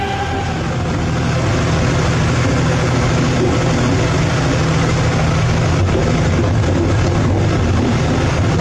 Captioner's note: the Sound of locomotive wheels crushing rubbish on the rails!